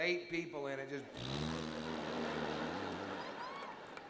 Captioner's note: blows raspberry